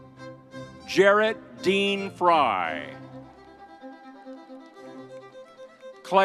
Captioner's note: crowd cheering